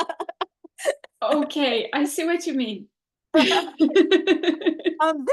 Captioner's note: laughs